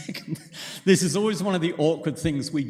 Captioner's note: chuckles